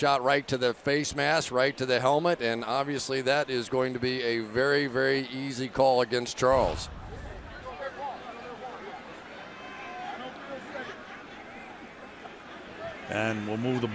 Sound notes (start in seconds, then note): 8.2 onfield chatter